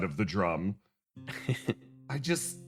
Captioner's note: Etete Chuckle